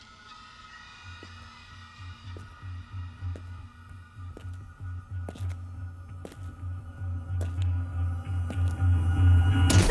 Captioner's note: footsteps; startled scream